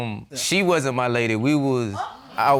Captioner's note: audience gasps